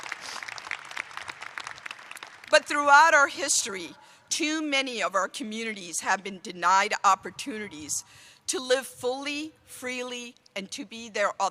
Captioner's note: applause